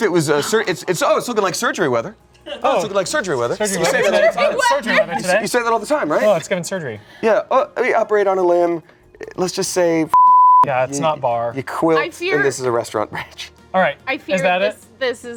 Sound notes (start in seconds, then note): 5.0 laughs; 10.1 beep